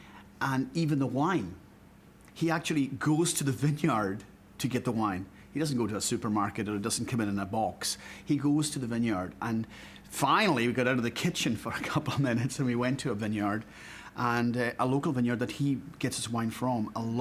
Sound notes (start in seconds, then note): 12.5 chuckling